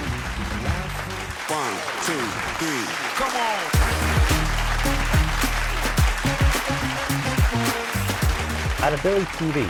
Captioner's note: applause